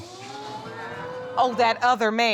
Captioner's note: audience exclaims